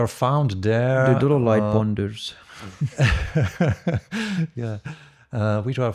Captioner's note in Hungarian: nevetés